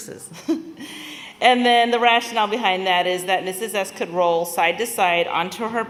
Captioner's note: laughter